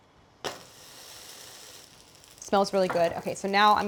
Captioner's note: flatbread sizzles